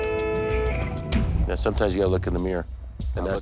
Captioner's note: horn blaring